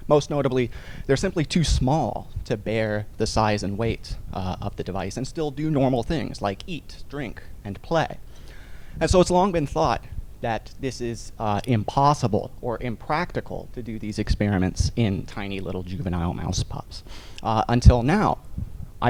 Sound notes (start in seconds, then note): none